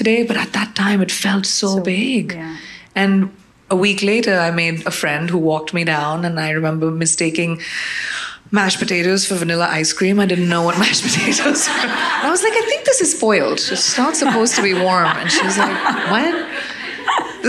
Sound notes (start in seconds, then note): 10.8 all laughing